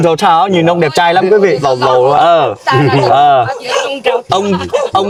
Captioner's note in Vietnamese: tiếng cười